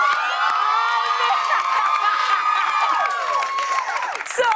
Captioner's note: cheers and applause; laughing